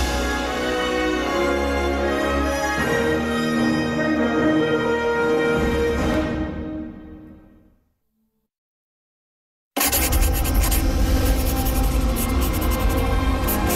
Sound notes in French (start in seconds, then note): 9.8 crayon grattant comme la musique joue